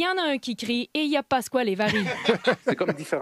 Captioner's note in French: rires